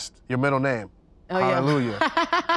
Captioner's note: laughs